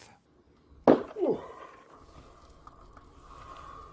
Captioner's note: man grunting